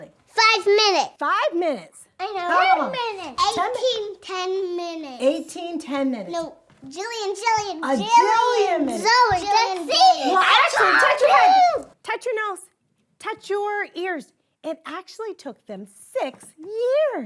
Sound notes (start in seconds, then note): 9.0 children yelling